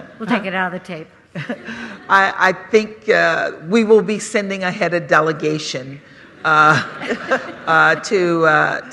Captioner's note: laughter